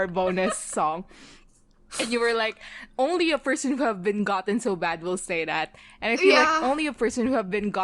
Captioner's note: laughs